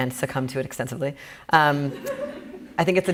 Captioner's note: laughing